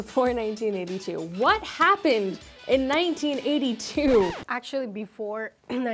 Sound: record scratches

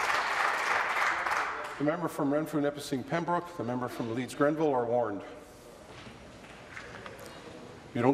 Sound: applause

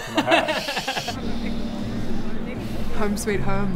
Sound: contented sniff

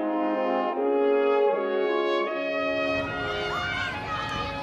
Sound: playground ambience

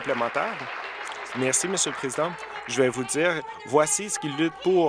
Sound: applause

